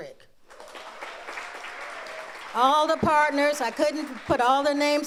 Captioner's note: audience applauds